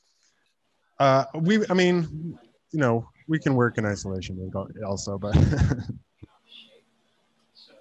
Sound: laughs

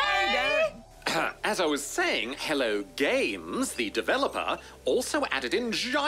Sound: clears throat

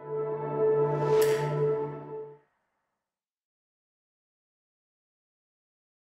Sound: snap

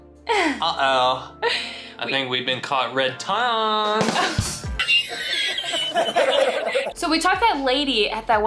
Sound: laughing

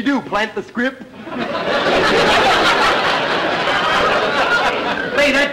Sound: audience laughter

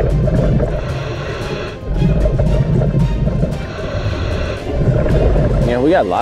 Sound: air hissing; suspenseful music; bubbles gurgling; deep breathing

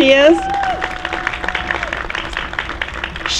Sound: applause

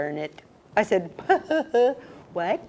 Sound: laugh

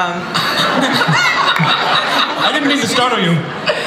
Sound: everybody laughs

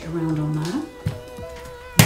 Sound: slapping

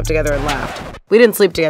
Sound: record scratching

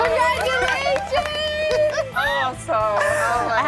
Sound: giddy laughter

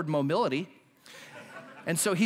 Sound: laughter

